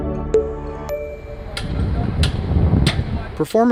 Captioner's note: whimsical music; metal clanking